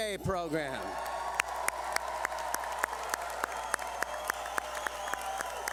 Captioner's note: cheering